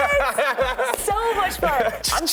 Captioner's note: laughing; palms clapping